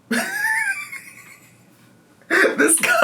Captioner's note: laughing